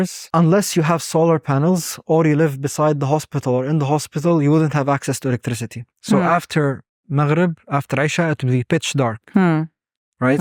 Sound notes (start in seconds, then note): 6.6 speaking Arabic